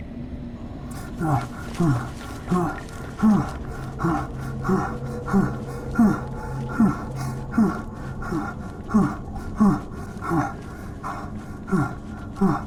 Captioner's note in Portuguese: Ofegante